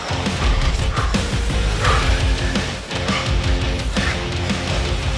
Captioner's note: breathes heavily